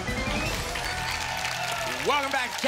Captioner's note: applause and cheering